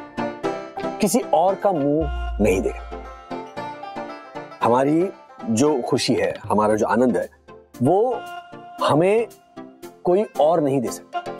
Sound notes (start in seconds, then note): none